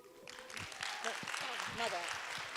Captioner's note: audience applauds